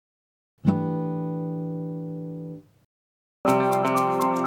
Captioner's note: chime sounds; upbeat music